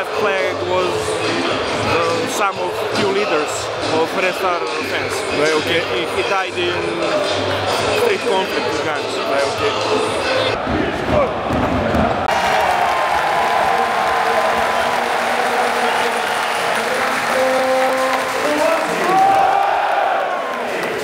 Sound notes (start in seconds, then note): 9.5 applause